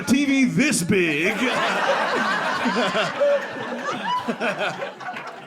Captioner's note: audience laughing